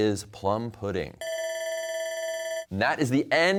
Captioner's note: bell ringing